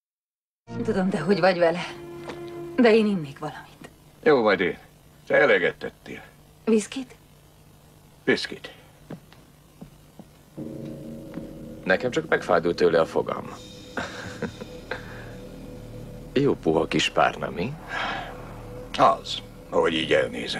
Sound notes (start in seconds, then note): 13.9 chuckles